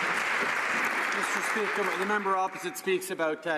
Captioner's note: some Applause